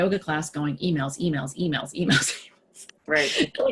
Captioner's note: laughing